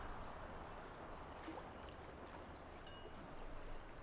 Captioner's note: wind blowing